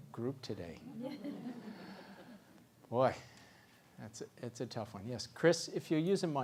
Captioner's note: laugh